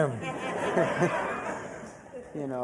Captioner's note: crowd laughs; chuckles